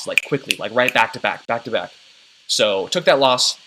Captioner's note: snaps fingers